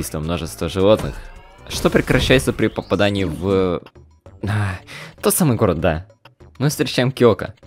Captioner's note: sigh